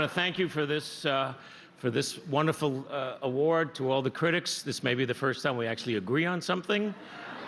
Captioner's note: laughter